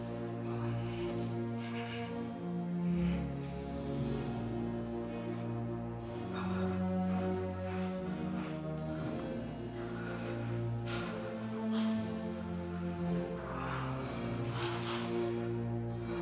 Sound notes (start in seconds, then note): 10.2 Heathcliff breathing hard; 13.7 soft music